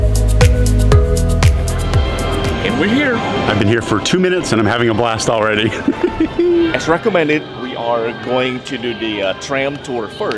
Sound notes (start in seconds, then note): 5.6 giggles